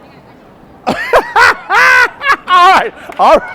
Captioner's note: laughs